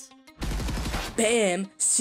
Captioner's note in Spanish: disparos; Voz a través del pinganillo